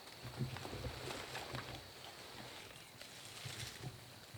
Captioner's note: rustling foliage